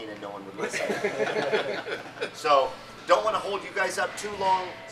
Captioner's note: laughing